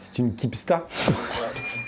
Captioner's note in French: rire